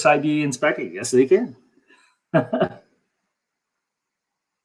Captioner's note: laughs